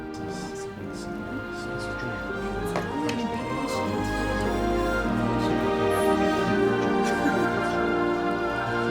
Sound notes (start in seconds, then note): 0.0 people chatting; 0.0 uplifting music